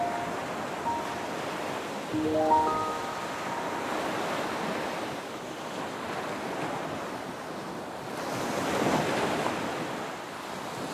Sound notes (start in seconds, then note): 3.5 waves billow